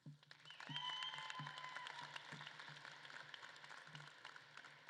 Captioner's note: audience claps and cheers